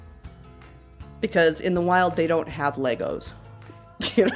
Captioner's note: laughs